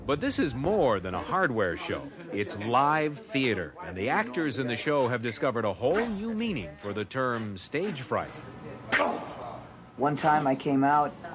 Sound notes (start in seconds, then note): 9.2 actor grunts